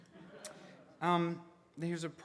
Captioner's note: audience laughing